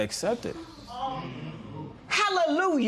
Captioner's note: spectators murmur